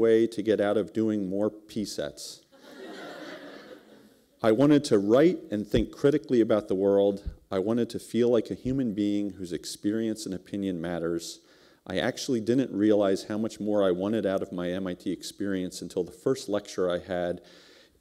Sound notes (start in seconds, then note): 2.5 laughter